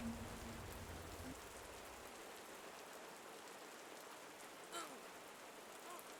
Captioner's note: raining